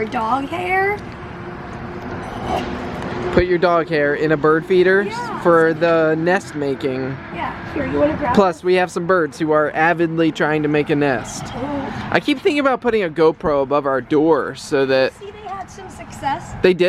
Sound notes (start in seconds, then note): 2.2 snorts